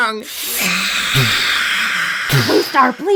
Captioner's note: whisper screams